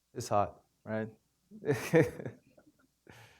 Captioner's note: chuckles